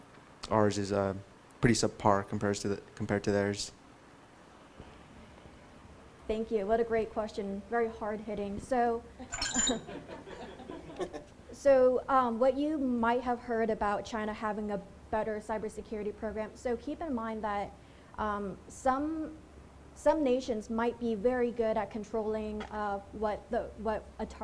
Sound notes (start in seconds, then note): 9.5 laughter